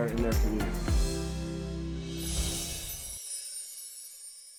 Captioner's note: chimes